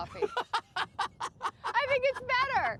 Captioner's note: Jerry laughs